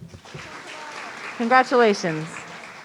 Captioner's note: audience applauding